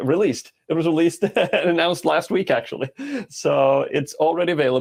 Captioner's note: laughing